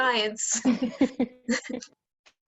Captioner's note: laughter